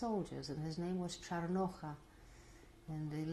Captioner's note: non-english